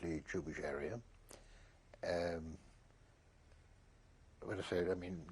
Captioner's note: pauses for 3 seconds